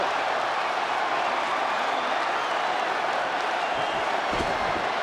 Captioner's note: audience cheers